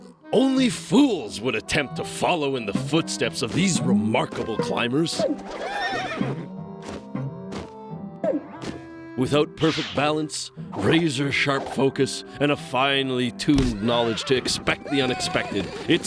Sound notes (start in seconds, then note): 5.2 whinnies